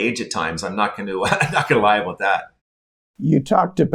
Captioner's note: laughing